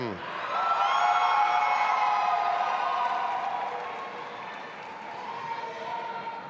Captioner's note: audience applauding and cheering